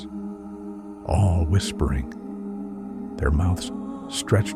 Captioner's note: all whispering